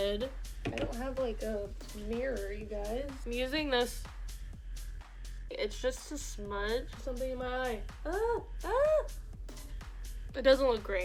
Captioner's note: screams